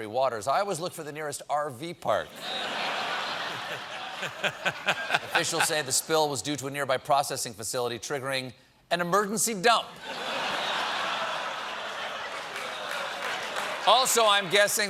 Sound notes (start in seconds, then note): 6.0 laughter